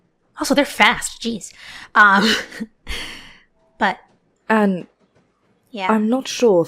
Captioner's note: chuckles